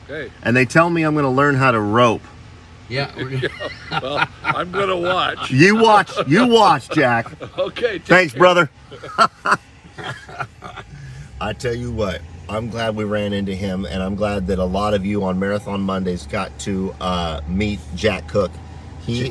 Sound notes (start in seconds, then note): 9.3 laugh